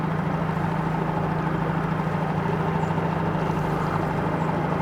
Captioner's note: boat engine chugging